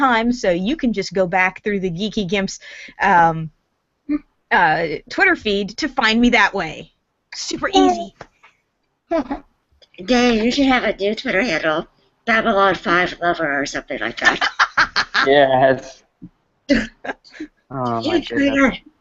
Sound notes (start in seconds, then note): 8.9 laughs